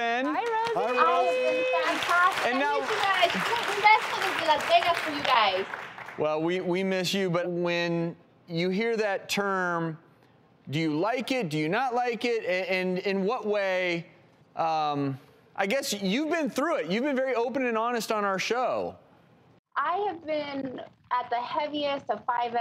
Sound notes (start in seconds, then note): 3.3 audience applause